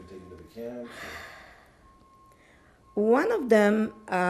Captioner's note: sighing